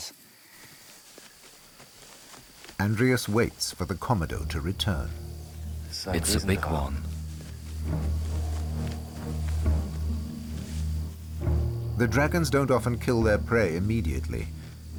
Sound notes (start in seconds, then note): 6.0 in German